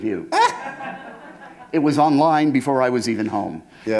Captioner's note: chuckle